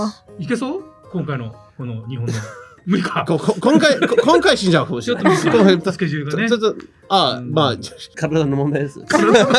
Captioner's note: laughs